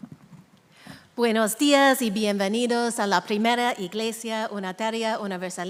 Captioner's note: speaking in a foreign language